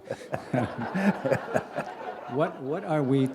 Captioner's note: laughter